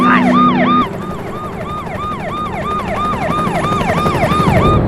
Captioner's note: sirens